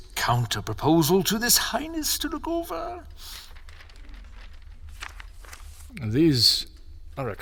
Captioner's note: sounds of paper shuffling